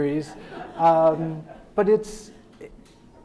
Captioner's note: audience laughing